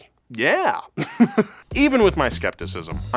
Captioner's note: laughs